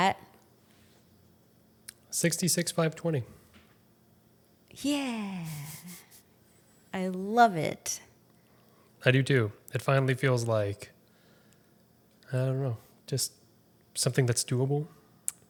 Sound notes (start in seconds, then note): 5.5 chuckles